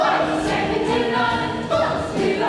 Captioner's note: shouted